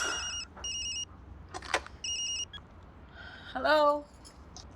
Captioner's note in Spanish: Suena el celular